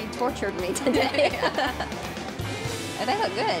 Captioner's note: both laughing